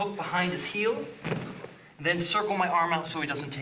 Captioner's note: loud thumping